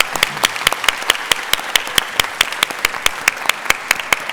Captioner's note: applause